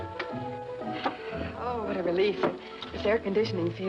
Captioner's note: sighs